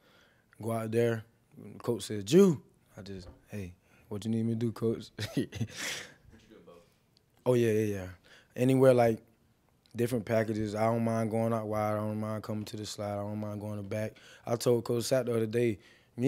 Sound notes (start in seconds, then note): 5.1 laughs